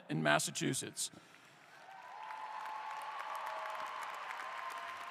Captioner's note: applause